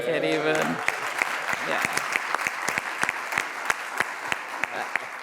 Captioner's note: audience applauds